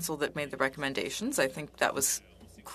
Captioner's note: speaking French